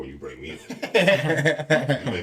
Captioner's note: laughing